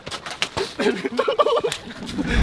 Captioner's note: laughing